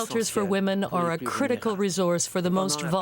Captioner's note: speaking French